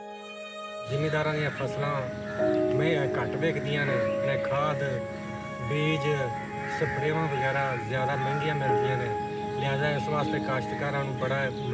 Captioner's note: non-english speech